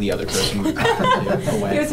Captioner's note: laughs